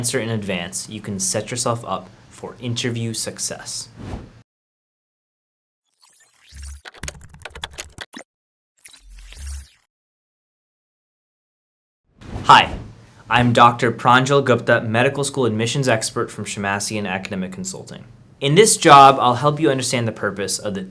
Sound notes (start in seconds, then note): 3.9 air whooshing; 6.8 typing sound; 8.8 air whooshing